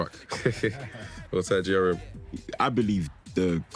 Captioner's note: chuckling